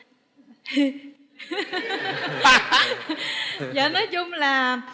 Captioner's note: laughing